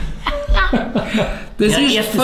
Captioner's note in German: Eltern lachen